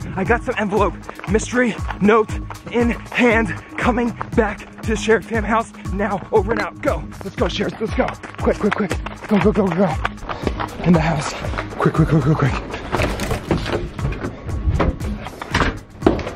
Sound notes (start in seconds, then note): 10.3 leaves crunching; 13.1 door handle jiggles; 13.1 door thuds